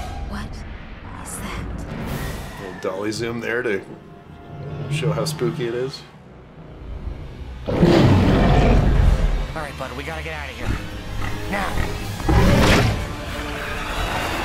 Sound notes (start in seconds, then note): 7.6 dragon roars